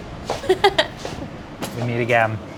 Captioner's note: laughs